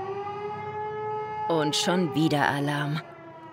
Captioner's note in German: Sirene